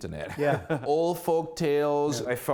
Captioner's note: laughter